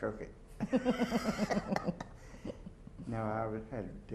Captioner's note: laughter